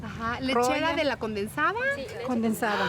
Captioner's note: speaking Spanish